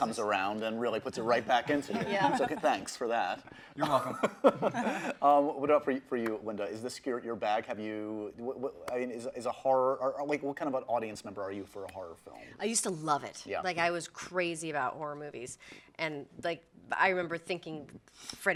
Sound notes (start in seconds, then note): 1.4 group laughs; 1.7 laughs